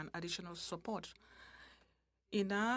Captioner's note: speaking french